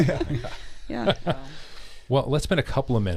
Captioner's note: laughing